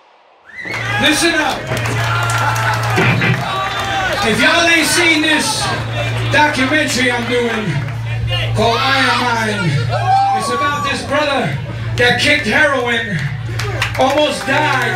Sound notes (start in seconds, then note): 2.6 crowd cheering